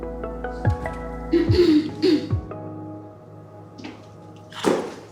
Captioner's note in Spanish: Carraspeos